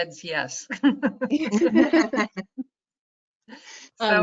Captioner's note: all laughs